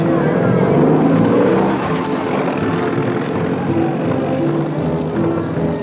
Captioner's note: engine rumbles; solemn music